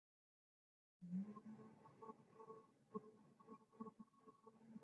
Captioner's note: humming